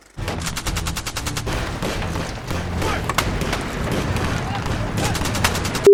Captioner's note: fast-paced tense music; gunfire rattling